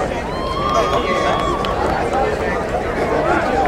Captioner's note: crowd cheering